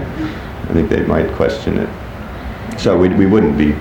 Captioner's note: scoffs